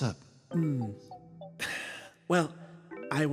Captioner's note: sigh